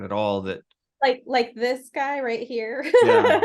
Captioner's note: laughs